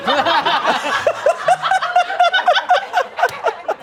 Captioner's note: laughter; laughs